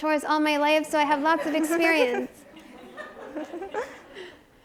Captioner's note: audience chuckles